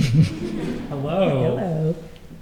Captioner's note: laughter